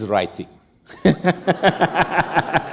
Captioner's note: laughter